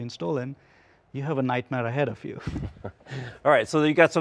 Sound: both laugh

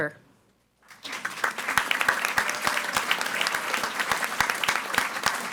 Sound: audience applauding

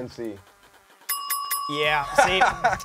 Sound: bell dings

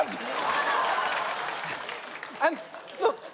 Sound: audience laughing

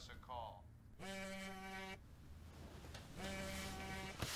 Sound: phone buzzing

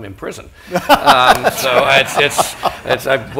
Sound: laughter

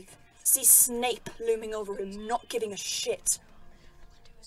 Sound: whispering

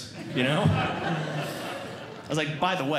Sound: audience Laughing

